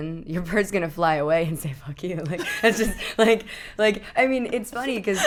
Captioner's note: laughing